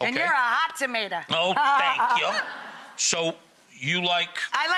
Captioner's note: Rachael laughs